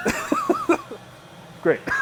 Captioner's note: laughing